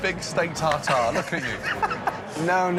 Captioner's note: laughing